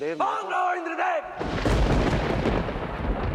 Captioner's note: thunder rumbling